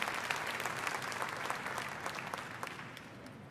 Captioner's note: applause